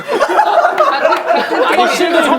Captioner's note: laughing